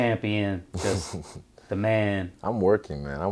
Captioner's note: Israel chuckles